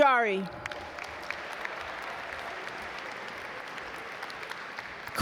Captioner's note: audience applaud